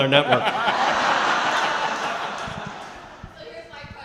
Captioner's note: laughing